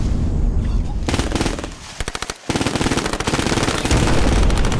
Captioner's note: gunfire